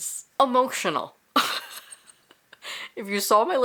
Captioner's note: laughs